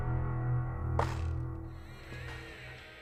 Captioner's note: tense music; lock popping; upbeat rock music